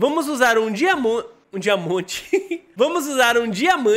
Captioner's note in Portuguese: risos